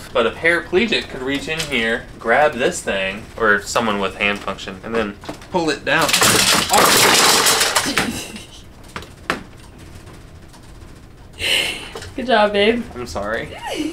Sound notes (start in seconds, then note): 5.9 hangers crashing; 7.8 laughs